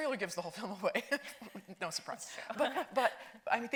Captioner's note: laughs